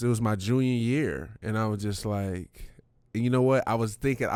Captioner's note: none